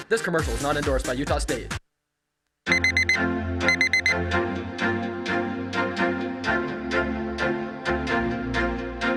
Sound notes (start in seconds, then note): 2.7 alarm going off; 4.4 chill upbeat music